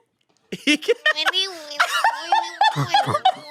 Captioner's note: they laugh